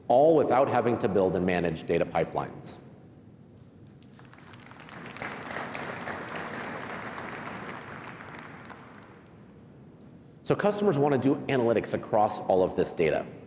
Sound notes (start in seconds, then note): 4.0 applause